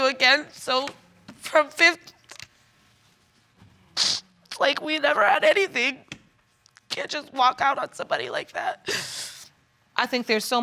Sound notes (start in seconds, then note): 4.0 sniffles